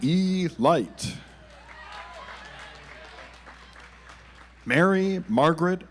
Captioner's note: audience applauds